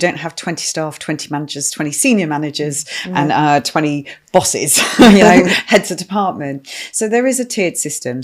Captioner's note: laughing